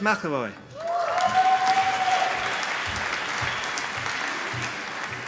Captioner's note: applause